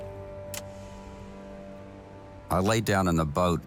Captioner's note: switch clicks